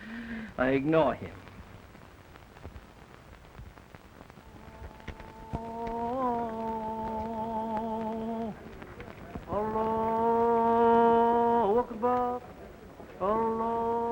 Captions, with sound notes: I ignore him. (man chanting in foreign language)